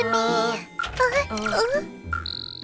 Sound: beeping continues

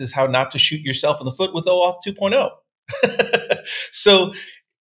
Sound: laughing

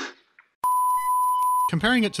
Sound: tone

